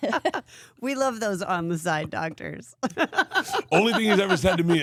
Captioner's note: laughs; laughs